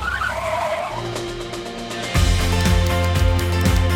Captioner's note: tires squealing; bright music